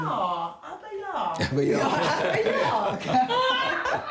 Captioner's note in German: lachend